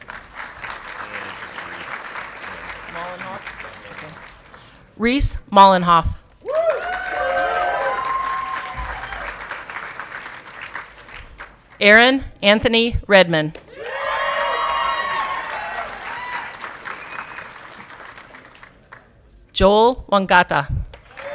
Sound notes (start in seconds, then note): 0.0 audience clapping; 6.4 audience clapping and cheering; 13.6 audience clapping and cheering